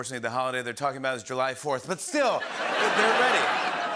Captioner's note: laughter